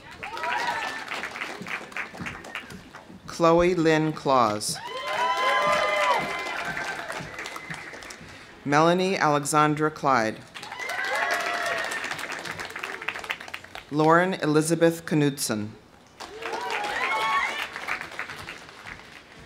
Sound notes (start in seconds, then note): 0.0 audience cheering; 0.0 audience applauding; 4.7 audience cheering; 4.8 audience applauding; 10.5 audience applauding; 10.6 audience cheering; 16.1 audience applauding; 16.2 audience cheering